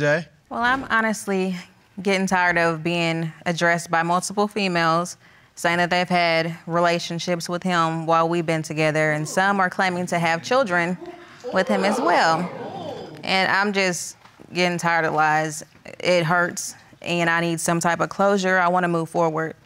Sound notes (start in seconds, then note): 11.0 audience gasping